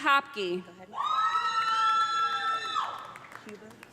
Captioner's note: loud cheering